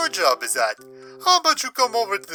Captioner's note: inhales